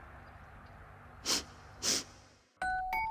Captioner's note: sniffing